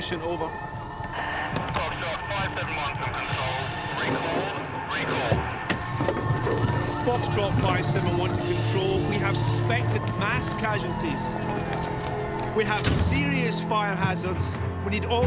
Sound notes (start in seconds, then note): 2.1 Control over radio